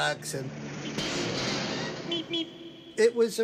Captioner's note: soundbite of archived recording